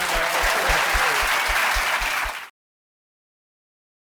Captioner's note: applause